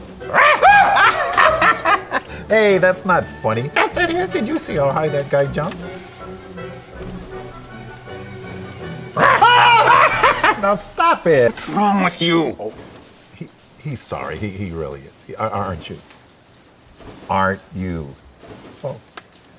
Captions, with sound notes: (dummy barks) (Dell shrieks) (dummy cackling) - Hey, that's not funny. - Yes it is, did you see how high that guy jumped? (dummy barks) (Dell screams) - Now stop it. - What's wrong with you? - He, he's sorry. He, he really is. Are, aren't you? Aren't you? - Oh.